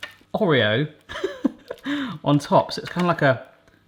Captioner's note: laughs